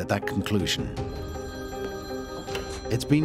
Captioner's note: phone rings